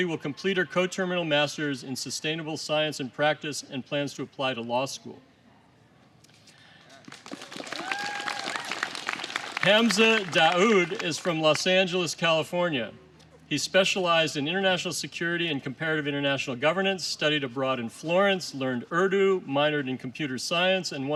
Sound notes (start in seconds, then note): 6.7 applause